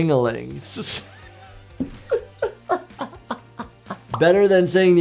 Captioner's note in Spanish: música alegre; se ríe